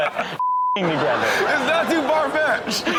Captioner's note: Steelo laughs; audience laughs